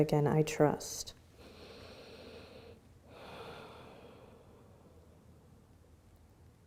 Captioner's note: inhaling and exhaling